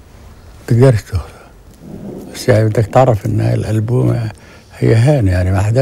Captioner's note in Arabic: يتحدث لغة أجنبية